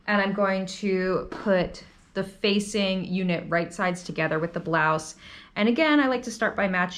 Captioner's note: none